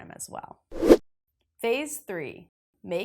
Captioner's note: graphic whooshes